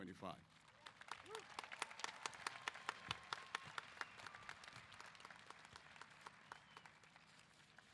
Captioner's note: applause & Cheers